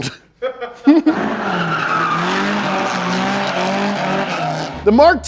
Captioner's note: male laughter off camera; engine roaring, wheels screeching